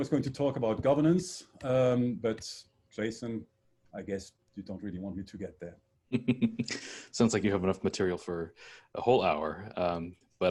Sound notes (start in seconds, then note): 6.1 laughing